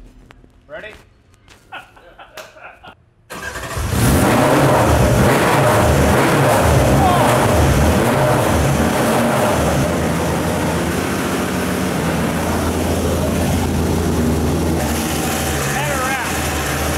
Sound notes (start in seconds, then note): 1.6 men laughing; 9.6 car engine roars